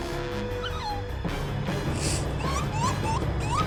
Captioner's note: squeaking